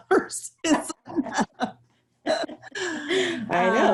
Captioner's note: laughter